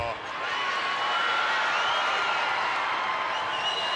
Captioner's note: crowd cheers